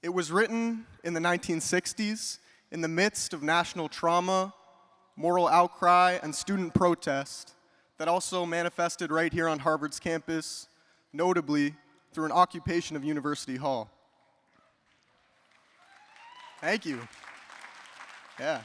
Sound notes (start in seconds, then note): 14.8 audience applauds; 15.8 attendee cheering; 17.3 audience applauding